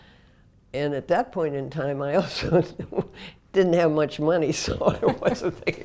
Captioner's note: laugh